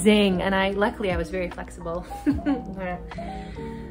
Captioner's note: laughs